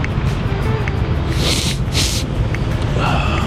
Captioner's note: sniffing